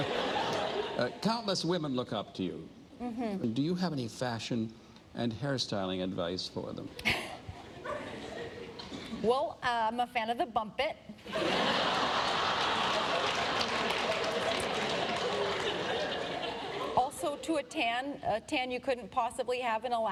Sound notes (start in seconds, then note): 12.8 laughter